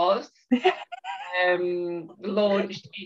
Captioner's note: chuckles